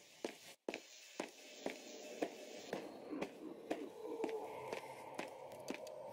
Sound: sprinting Footsteps

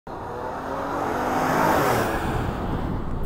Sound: vehicle approaching

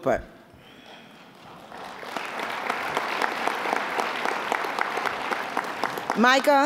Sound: applause

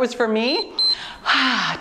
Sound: timer beeps

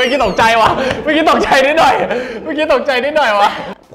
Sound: almost crying

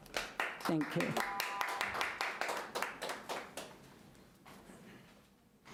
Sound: audience applauding lightly

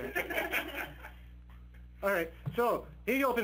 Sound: participants laughing

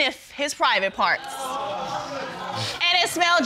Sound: audience exclaims

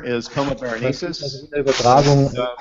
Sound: speaking german

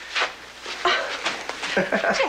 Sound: laughs

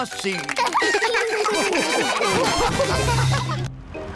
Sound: all laugh

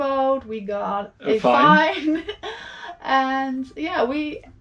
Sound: chuckles

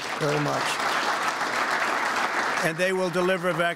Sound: applause

